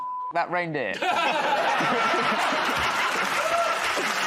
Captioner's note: laughter; cheers and applause